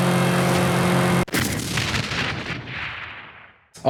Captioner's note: video game car hitting top speed; kaboom